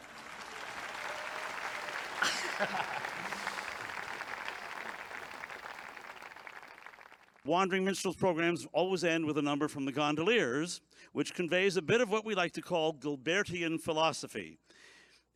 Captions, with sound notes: [audience applauds] (they laugh) [audience applauds] - Wondering Minstrel's programs always end with a number from "The Gondoliers" which conveys a bit of what we like to call, "Gilbertian Philosophy."